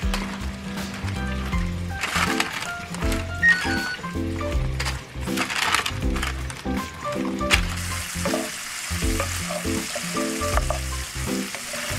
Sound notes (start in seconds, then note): 3.5 oven preheating sound